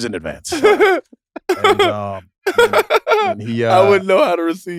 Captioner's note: laughs